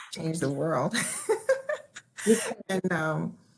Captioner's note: laughing